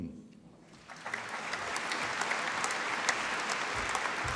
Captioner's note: applause